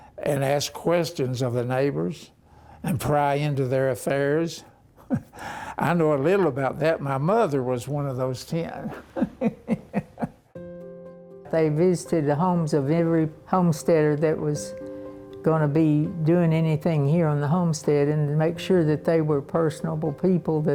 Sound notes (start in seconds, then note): 8.8 chuckling